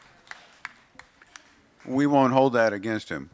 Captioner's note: applause